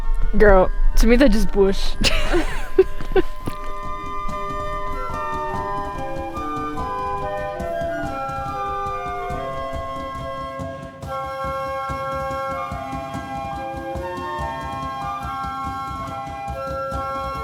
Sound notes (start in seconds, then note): 2.4 laughing; 3.3 atmospheric music playing